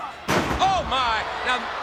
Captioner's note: body thudding; footsteps plodding; crowd clamoring